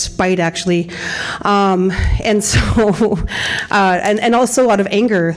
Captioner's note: laughter